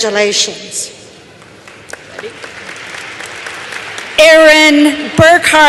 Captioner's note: applause